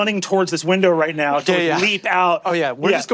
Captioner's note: laughs